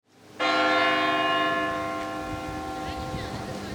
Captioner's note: church bell rings